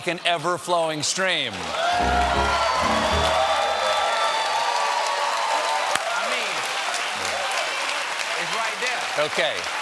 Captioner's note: cheers and applause